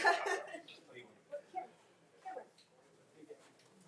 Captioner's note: attendees laughing; speaking faintly